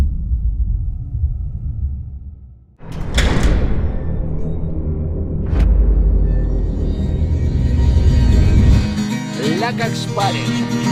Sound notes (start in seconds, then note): 0.1 dramatic sound; 2.8 door clangs ominously; 9.2 guitar playing